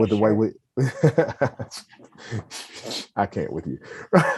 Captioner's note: laughs